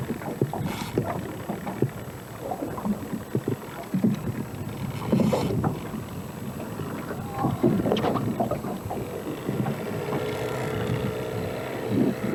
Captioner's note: water sounds